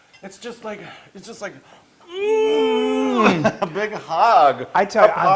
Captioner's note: laugh